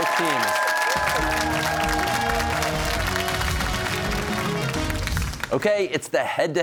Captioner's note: cheers and applause